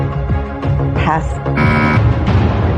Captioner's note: buzzer sounds